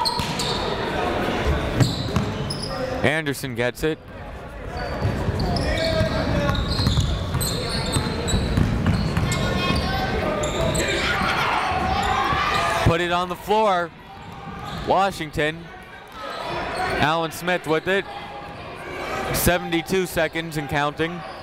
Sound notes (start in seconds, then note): 0.0 whistle; 0.6 chatter; 4.4 chatter